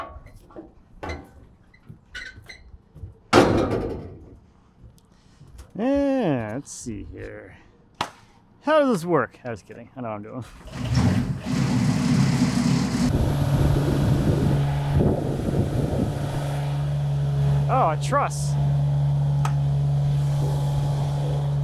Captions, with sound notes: Let's see here. How does this work? I was kidding, I know what I'm doing. (motor rumbling) (motor humming) Oh, a truss! (motor humming)